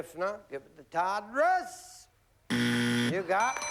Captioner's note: buzzer